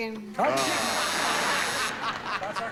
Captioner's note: charles laughing